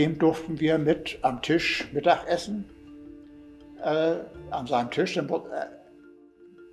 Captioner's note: continues speaking in German